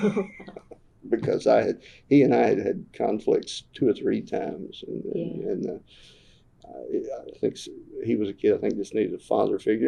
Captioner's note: laughter